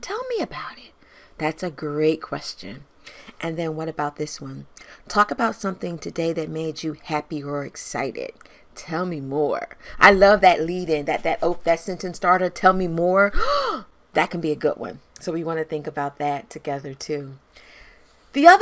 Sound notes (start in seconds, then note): 13.4 gasps